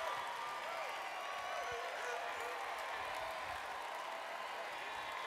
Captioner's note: applause/Cheering